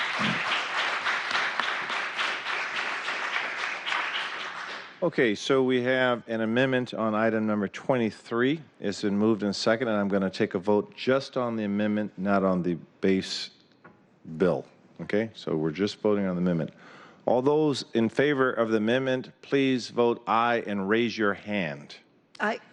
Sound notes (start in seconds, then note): 3.1 applause